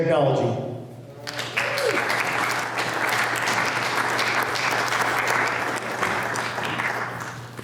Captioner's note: applause